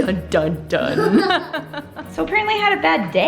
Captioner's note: laughing